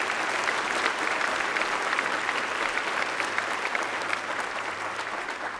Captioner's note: applause